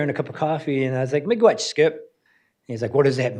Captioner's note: speaks in foreign language